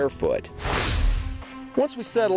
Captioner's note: swooshing